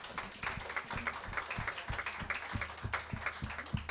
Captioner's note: applause